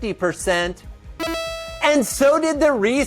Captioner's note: electronic ding